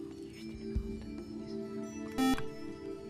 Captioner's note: buzzer